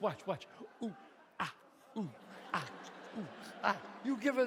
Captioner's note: audience laughs